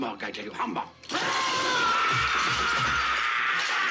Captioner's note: SCREAMlNG